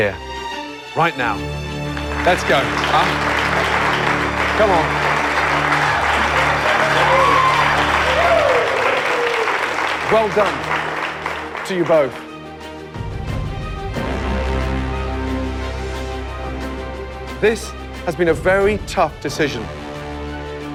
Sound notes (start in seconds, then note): 5.3 cheers and applause